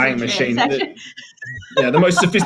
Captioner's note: laughing